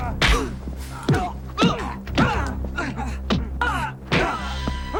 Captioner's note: Bruce groaning